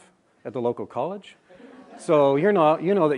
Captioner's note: laughter